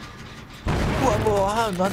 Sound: exploding

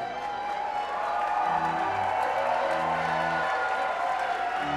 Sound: applause

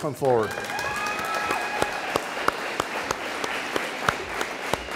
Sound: audience cheering

